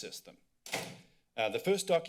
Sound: door slams

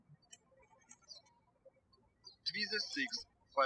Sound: birds chirping

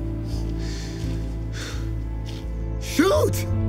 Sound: inhales, sighs

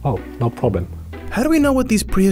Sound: voiceover

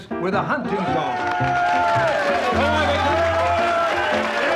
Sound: cheering

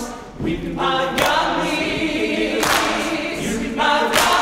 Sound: clapping

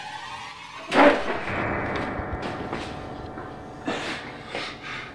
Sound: furniture scattering

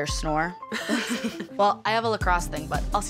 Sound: Rooney laughs

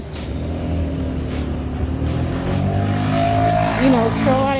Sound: loud bike revving

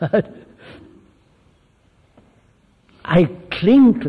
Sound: laughs

